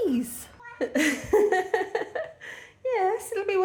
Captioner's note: meow; laughing